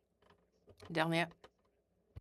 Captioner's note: speaking in French